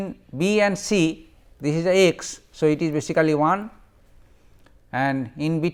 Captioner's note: fuzzy